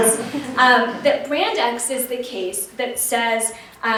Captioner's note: laughter